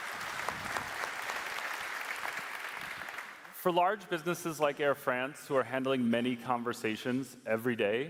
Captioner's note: cheers and applause